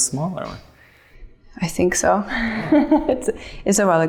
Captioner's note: chuckles